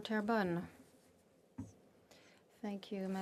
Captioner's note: speaking French